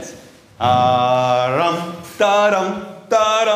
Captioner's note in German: Er summt eine Melodie